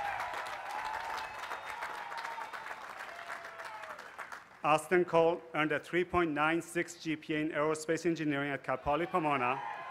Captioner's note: cheers and applause